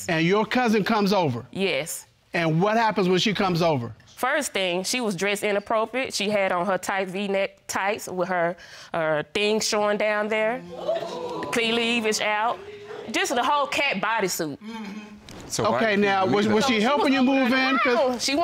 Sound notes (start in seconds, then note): 10.6 audience exclaiming